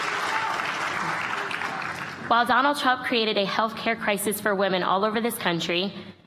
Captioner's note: applause